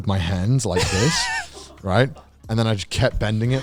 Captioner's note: chuckles